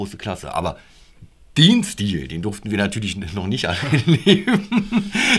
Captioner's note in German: lachen